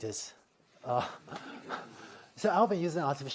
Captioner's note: laughter